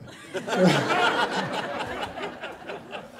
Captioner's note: laughter